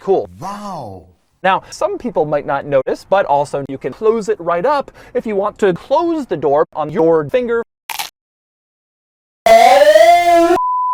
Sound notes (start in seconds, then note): 7.9 crunch; 9.4 bars and tone